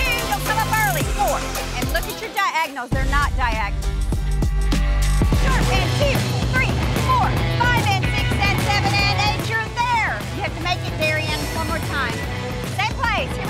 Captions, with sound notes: - And look at your diagonals. They're not diagonal. (dramatic music) (coach counting) (upbeat music) You're there! Okay make it Darian, one more time. (dramatic music)